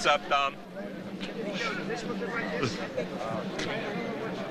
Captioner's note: overlapping chatter